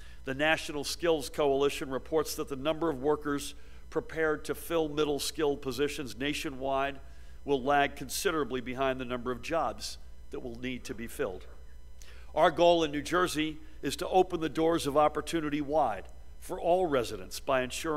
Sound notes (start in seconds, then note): none